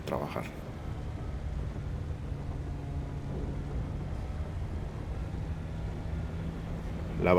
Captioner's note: sound of a car driving during a storm